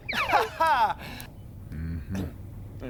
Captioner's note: laughs